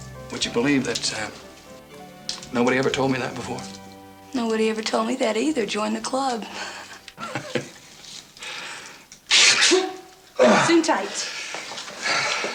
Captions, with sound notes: - Would you believe that nobody ever told me that before? - Nobody ever told me that either. Join the club. (both laughing) (Joe sneezes) Gesundheit.